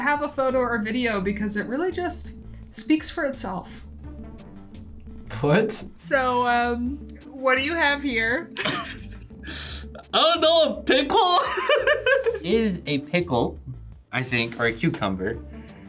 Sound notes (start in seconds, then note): 11.4 laughs